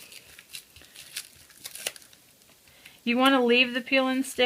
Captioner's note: plastic shuffling